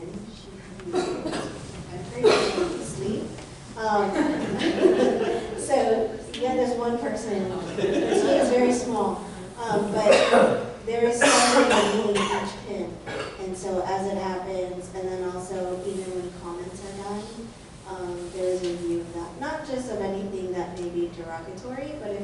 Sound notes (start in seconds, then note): 4.1 audience laughter; 9.3 laughter